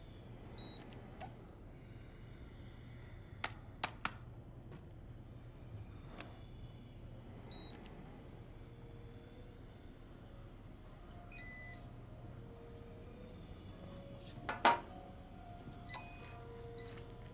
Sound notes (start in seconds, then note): 0.6 device beeps; 7.4 beeps; 10.5 beeps; 14.8 beeping